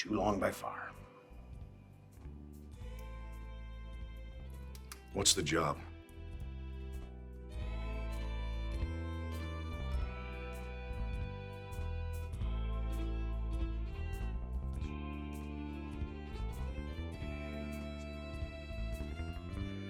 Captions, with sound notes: - Too long by far. (gentle music) - What's the job? (gentle music) (Larson whispering faintly)